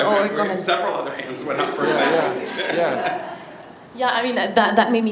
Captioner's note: laughs